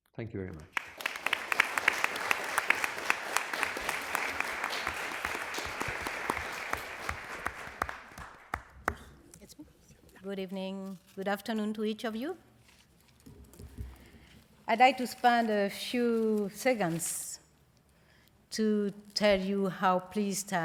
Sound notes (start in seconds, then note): 4.3 applause